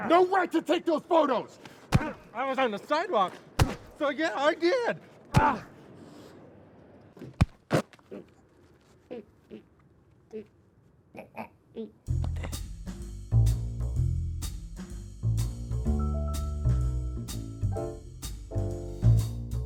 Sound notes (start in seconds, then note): 7.1 man choking; 11.0 dramatic music